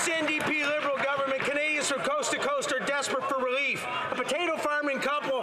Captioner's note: some Applause